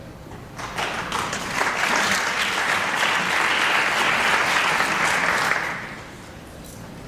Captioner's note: applause